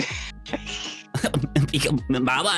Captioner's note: laughing